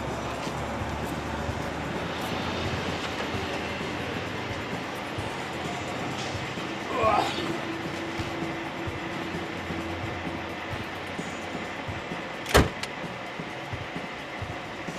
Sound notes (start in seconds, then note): 6.8 man moans